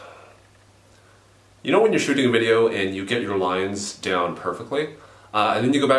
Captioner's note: sighs